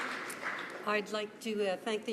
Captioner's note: some Applause